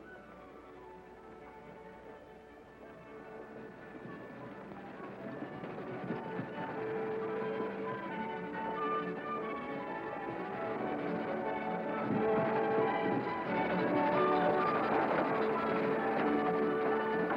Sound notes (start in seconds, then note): 3.7 hooves thudding; 3.7 stagecoach rattling